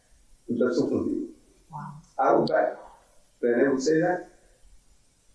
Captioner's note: speaking in foreign language